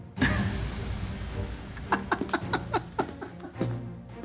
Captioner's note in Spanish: Risas